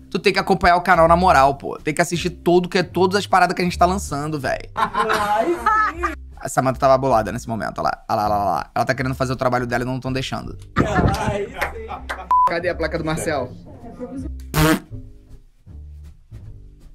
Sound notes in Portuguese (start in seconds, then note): 4.7 risadas; 12.3 som de bipe